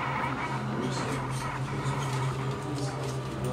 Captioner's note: indistinct chatter